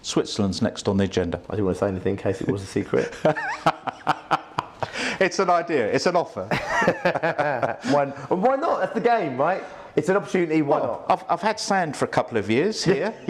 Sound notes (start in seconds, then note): 2.9 laughs; 6.4 they laugh